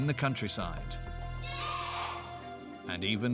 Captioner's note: children In Unison